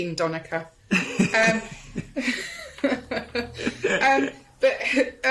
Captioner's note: giggles